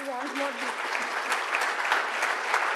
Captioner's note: applause